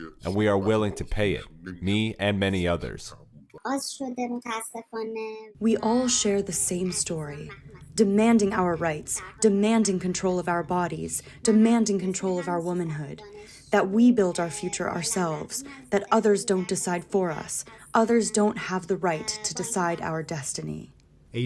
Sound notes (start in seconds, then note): 6.0 through translator